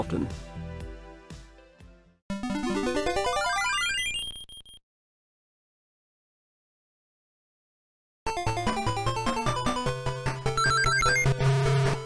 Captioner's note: game Sounds